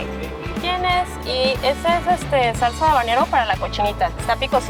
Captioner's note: Spanish